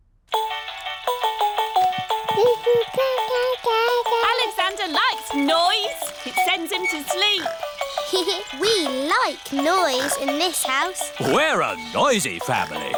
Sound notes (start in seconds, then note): 0.4 mobile playing loud music; 2.4 cooing; 7.6 giggles